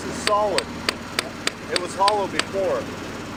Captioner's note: hammer tapping